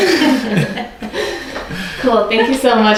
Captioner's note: laughing